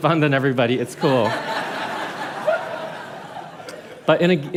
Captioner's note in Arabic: ضحك